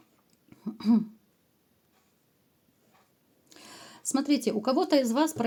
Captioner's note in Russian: откашливается